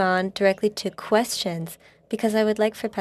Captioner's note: speaking French